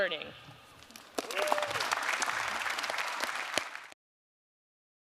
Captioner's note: all cheering and clapping